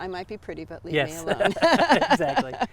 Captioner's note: laugh